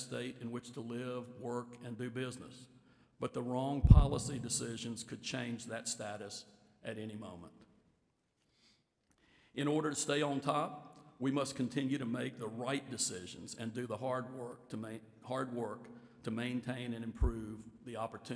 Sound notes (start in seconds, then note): none